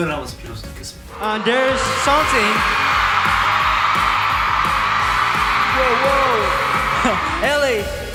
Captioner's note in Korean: 함성